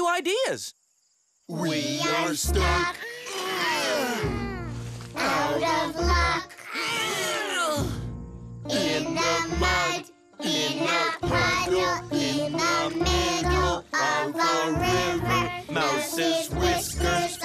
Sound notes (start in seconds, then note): 3.1 sing; 4.0 grunt; 7.6 grunt